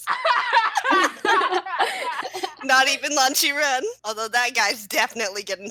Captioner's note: laughter